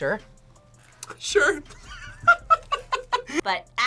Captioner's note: laughs